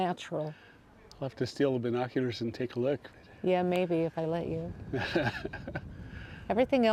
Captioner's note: laughter